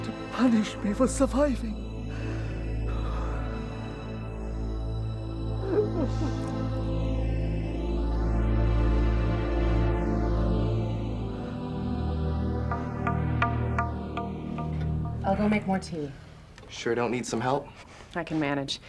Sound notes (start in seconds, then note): 5.6 Vong crying; 9.7 suspenseful music